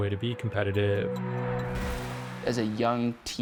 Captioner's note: water splashing